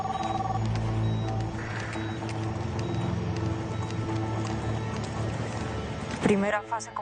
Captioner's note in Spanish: Suena un celular